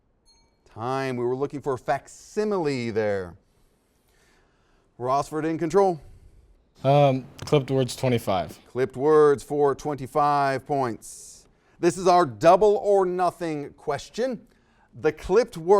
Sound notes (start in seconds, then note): 0.2 dings